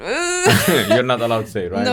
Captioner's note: laughs